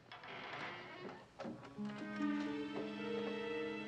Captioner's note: kapı gıcırdıyor